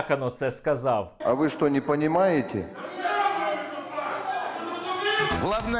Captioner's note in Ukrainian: обурливі вигуки із залу